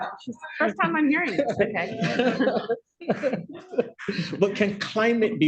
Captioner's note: laughter